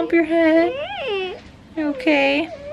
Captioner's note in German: Kind jammert